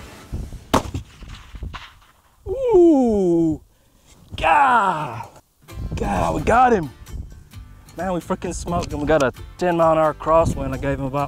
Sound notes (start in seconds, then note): 0.7 fires gun